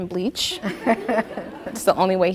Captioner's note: audience laughing